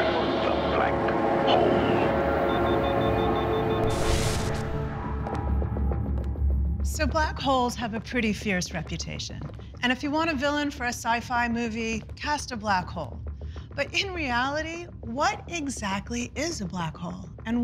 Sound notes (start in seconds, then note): 2.3 machine beeping